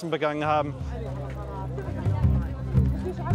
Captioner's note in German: Stimmengewirr; Angespannte Klänge